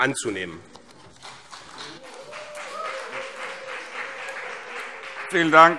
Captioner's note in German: Beifall CDU und BÜNDNIS 90/DIE GRÜNEN